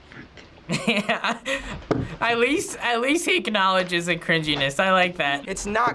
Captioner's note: laughs